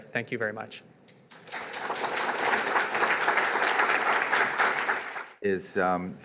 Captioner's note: audience applauds